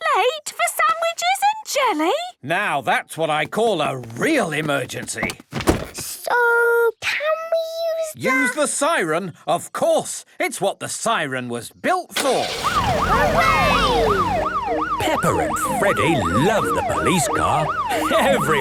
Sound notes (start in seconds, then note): 12.3 siren